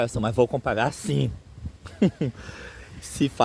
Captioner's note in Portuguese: risos